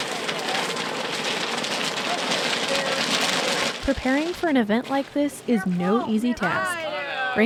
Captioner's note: corn popping